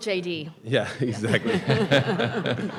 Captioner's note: people laughing; chuckling